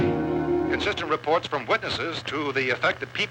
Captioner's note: radio